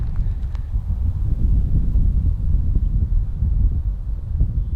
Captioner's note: wind blowing